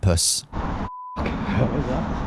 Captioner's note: beep